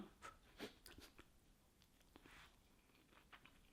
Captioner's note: sniffing